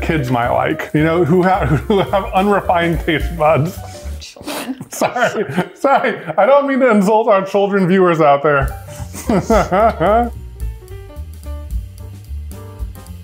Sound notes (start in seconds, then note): 8.8 laughs; 10.4 playful music